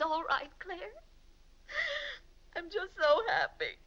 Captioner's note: sobs